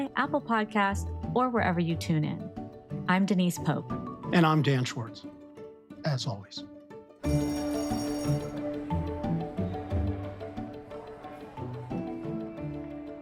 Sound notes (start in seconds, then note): 7.2 school bell rings; 7.3 bright music continues; 9.4 people chattering faintly